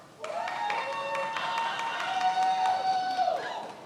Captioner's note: many applauding